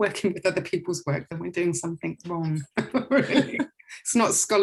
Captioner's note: laughs